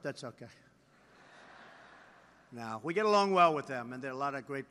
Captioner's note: laughter